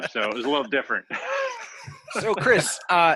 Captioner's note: laughter